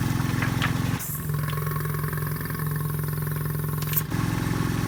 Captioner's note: air hisses, pump gurgles